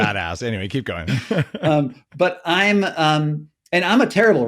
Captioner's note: chuckling